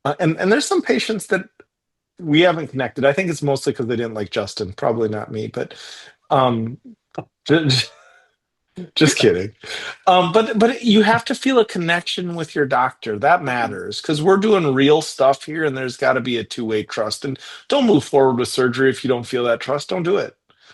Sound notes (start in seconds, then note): 7.0 chuckles